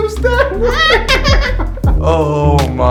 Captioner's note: laughter